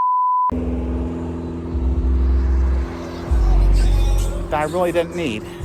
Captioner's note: Traffic on Paulding Road